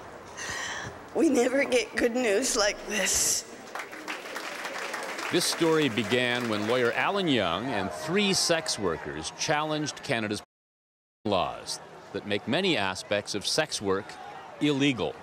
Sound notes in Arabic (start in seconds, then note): 3.6 تصفيق